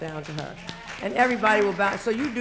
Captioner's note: applause